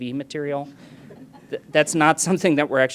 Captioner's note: laughing